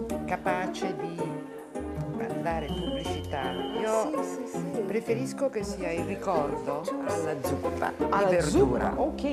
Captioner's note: speaking Italian